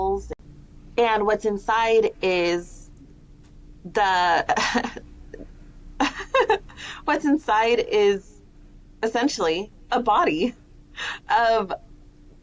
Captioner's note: laughter